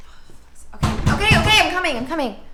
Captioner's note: door bangs